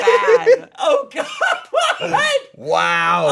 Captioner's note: laughing; laughs